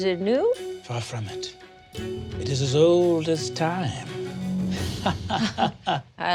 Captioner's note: chuckles